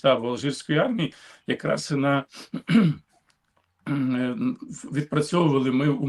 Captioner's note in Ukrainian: прочищення горла